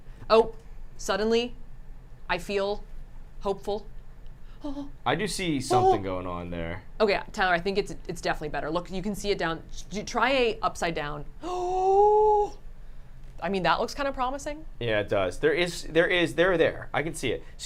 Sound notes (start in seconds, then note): 11.7 gasps